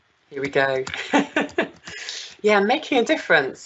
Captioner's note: laughing